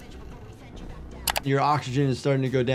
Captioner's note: mouse clicks